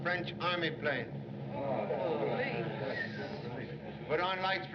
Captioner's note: all Murmuring